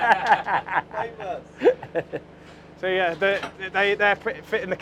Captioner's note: laughter